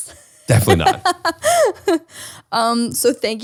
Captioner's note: laughs